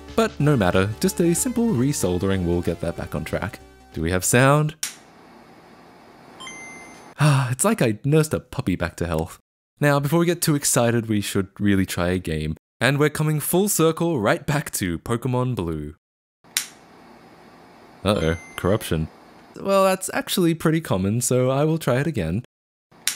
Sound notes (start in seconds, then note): 6.4 Game Boy chimes